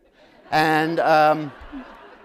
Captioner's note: laughter